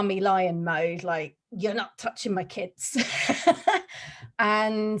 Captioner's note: laughs